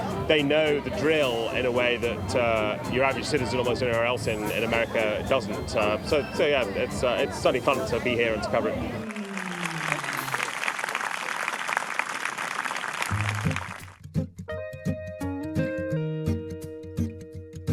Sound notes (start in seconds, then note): 9.0 applause